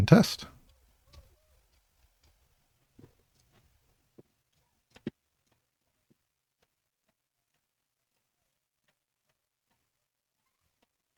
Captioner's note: silence